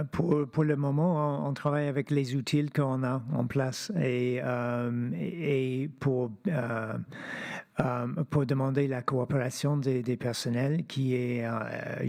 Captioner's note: speaking French